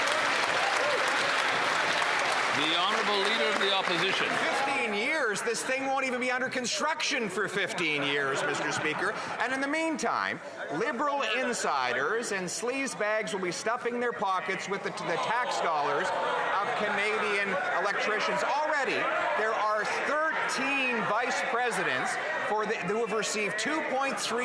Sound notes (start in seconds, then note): 4.0 some Applause